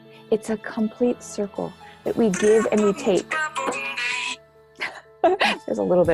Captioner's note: phone rings - music playing